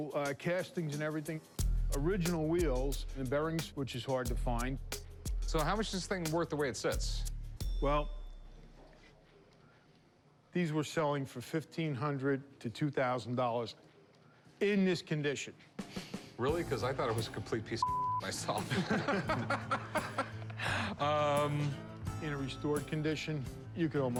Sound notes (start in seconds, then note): 18.3 laughter